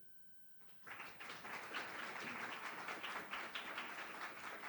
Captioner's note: students applauding